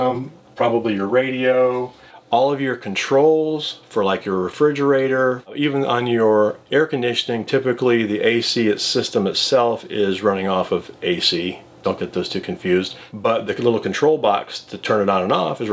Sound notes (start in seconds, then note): none